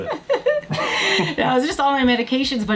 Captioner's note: laughs